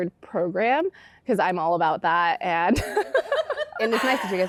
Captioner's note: laughter